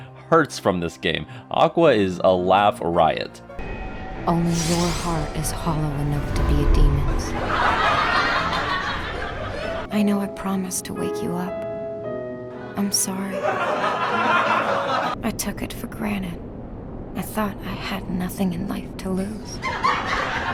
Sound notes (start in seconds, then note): 7.3 audience laughter; 13.2 audience laughter; 17.2 audience loses it